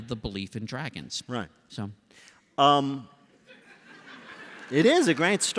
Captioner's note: laughter